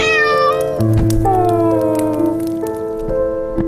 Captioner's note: cat meowing